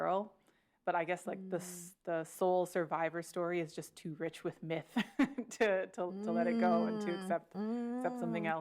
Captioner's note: laughs